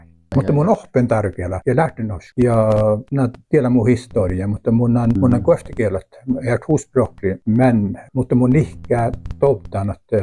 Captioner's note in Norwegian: svarer på nordsamisk